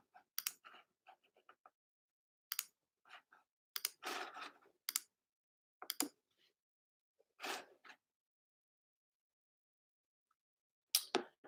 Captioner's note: computer clicks